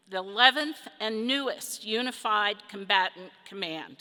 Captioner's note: none